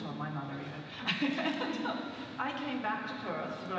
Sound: laughs

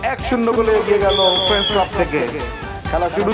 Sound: whistle

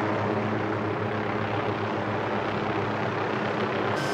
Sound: helicopter

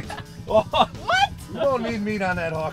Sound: laughs

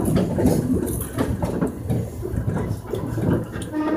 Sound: train horn warning

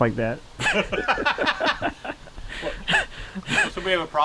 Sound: both laughing

